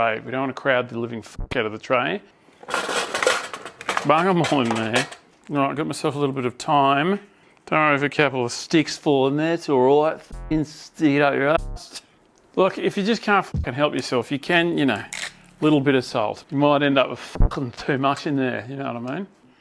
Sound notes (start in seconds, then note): 15.1 twists salt grinder